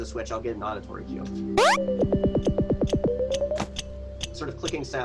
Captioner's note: switch beeping